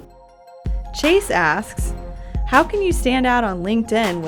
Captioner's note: voiceover